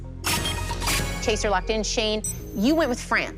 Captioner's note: chime, chime